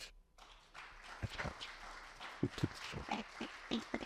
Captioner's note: audience clapping